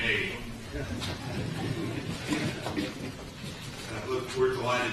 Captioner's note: laughter